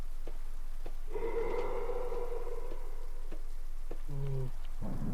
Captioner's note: monsterous goulish breath and/or scream?